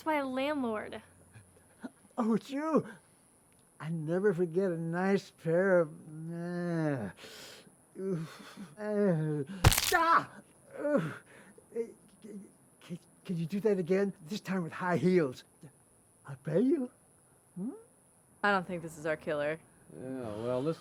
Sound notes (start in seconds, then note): 6.9 man groaning